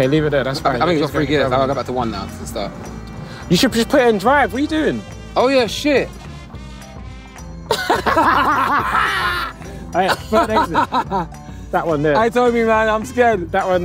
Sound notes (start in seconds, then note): 7.6 both laughing